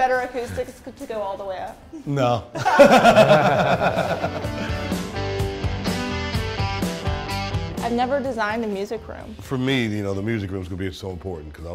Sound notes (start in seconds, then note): 2.5 laughing; 4.8 upbeat music